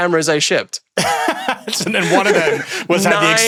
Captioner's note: laughs